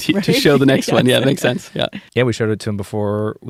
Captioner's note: laughter